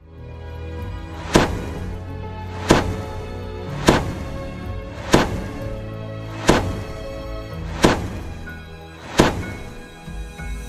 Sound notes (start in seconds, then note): 1.0 impact sounds; 7.6 mood music